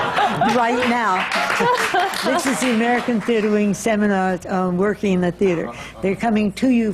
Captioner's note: laughter